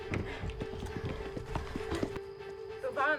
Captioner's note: insects chirping